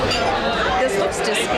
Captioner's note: silverware clanking; customers chattering loudly